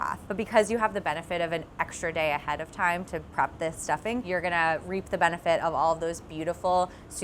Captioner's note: none